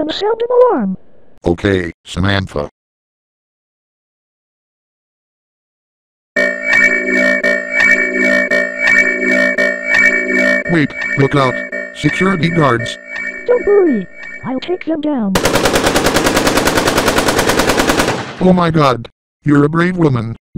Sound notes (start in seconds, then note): 6.3 alarm Sounds; 15.3 even more shooting sounds